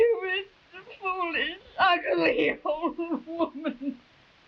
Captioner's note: sobbing